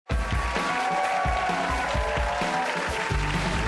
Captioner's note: audience applauds